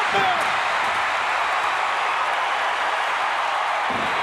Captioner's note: crowd cheers